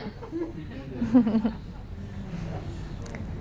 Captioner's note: laughter